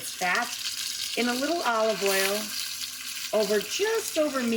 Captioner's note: chicken sizzling